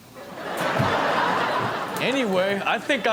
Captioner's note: audience laughing